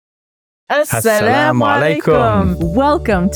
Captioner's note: speaks foreign language